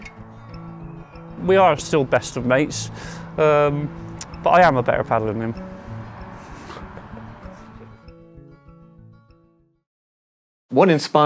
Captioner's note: laughs